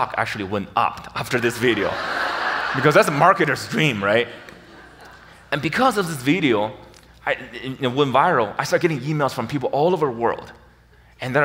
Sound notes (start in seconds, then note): 1.4 audience laughs